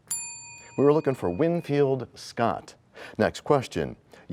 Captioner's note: bell rings, time expires